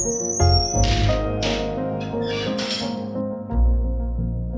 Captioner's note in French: porte qui se ferme